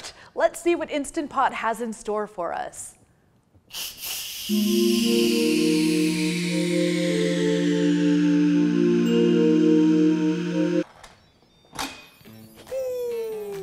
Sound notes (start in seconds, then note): 3.8 steam releasing; 6.1 calm music